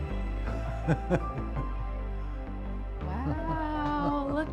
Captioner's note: bright music; laughs